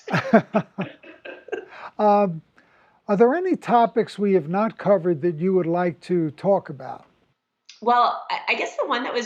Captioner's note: laughs